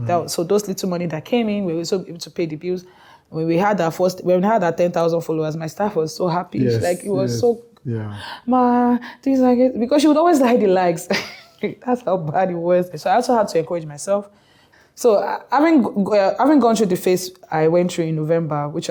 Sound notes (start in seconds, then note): 8.7 excited